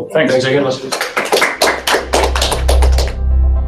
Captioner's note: applause